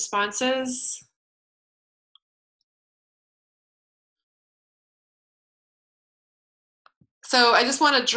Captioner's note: pause